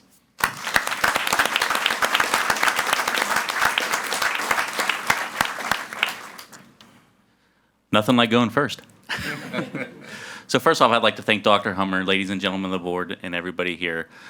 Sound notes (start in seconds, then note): 0.4 audience applauding; 9.1 laughs; 9.1 audience laughs